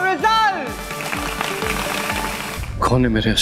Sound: applause

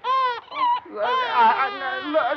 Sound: baby crying

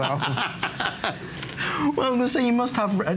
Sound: laughter

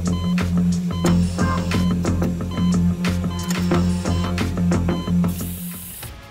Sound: beeping, music playing

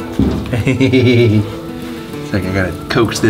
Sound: laughs

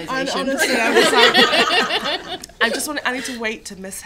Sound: laughter

